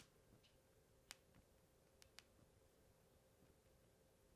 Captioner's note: none